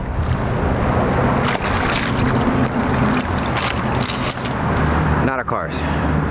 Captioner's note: water splashing; traffic droning